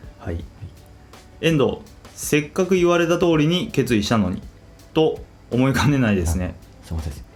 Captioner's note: laughs